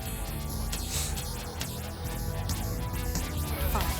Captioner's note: John sniffs